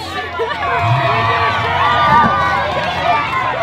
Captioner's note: cheering crowd